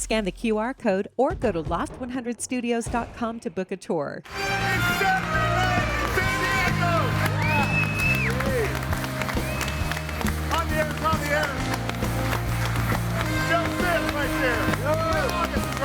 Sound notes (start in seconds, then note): 4.5 audience applauds and cheers